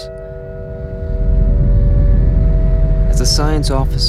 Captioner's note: ship rumbling